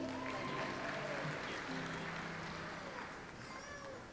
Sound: audience applauds

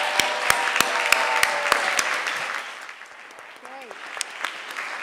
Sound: audience applauding

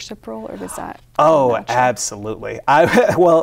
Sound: laughs

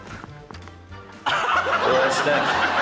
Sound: laughter

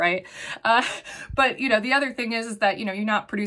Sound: chuckles

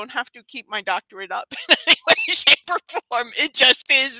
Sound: laughs

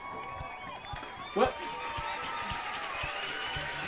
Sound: crowd applauds

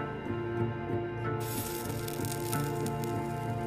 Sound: sizzling

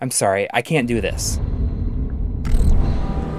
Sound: game audio

